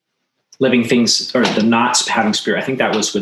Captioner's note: speaks foreign language